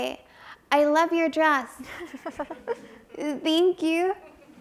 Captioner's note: audience chuckles